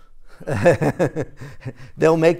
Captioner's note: chuckle